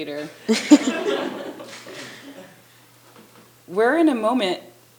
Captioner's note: attendees laughing